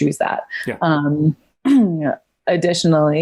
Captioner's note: clears throat